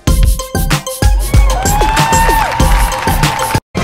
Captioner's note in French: applaudissements